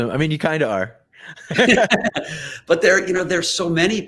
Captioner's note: both laugh